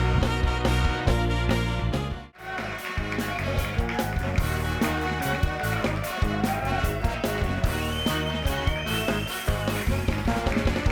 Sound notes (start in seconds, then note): 2.6 upbeat music; 5.5 audience cheering and applauding